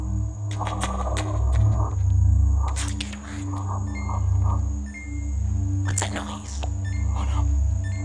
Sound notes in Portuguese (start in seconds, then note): 3.9 Um sinal sonoro contínuo começa